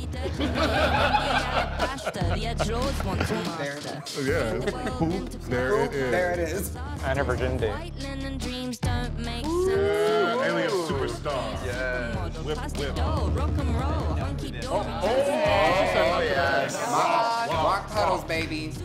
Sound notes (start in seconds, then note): 0.0 group laughing; 9.4 group cheering; 14.8 group cheering